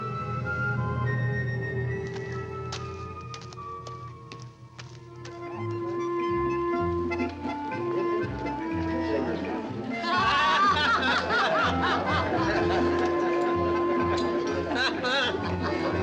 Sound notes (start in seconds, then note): 5.5 light orchestral music; 10.0 woman and man laugh